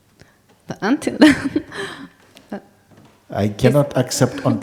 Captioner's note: questioner laughs